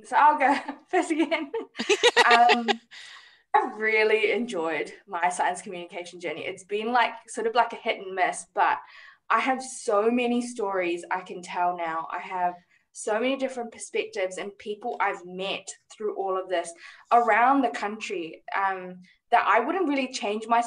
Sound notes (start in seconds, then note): 0.5 laughs